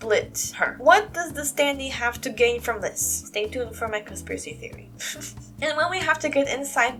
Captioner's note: chuckle